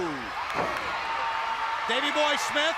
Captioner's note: crowd cheering